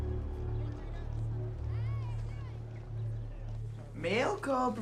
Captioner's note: students chattering